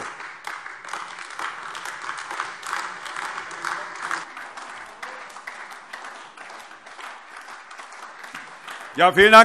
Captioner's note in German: Beifall AfD